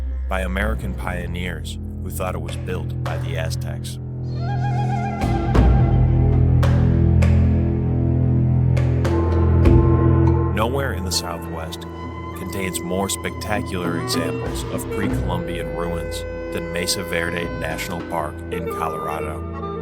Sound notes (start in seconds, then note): 4.2 animal yowls; 5.1 eerie music continues